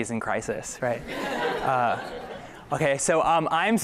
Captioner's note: laughter